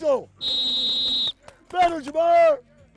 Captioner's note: whistle blowing